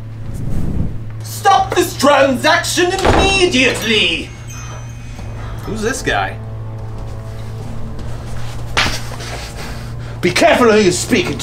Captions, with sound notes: STOP THIS TRANSACTION IMMEDIATELY! Who's this guy? (slap) Be careful who you speakin to